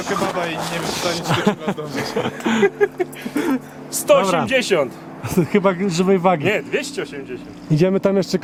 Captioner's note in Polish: śmiech